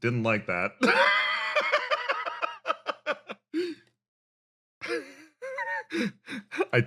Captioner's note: laugh